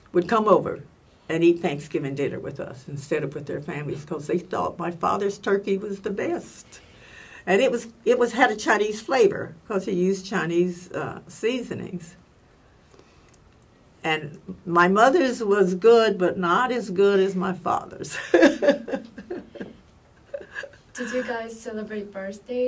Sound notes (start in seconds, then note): 18.1 laugh